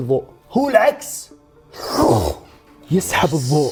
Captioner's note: slurps